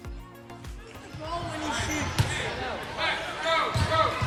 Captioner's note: people talking